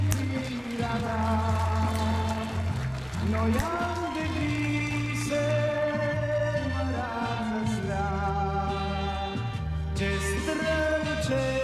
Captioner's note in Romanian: Aplauze; Aplauze